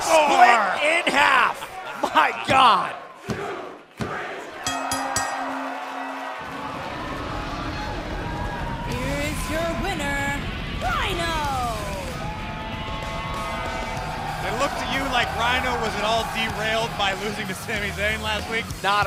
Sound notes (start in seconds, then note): 0.0 fans chanting; 4.6 bell rings; 12.8 cheers & applause